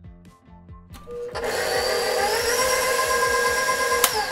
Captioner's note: mixer whirs